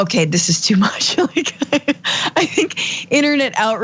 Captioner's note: laugh